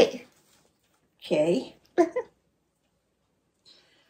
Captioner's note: laughs